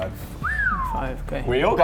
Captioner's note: impressed whistle